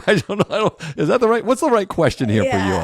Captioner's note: laugh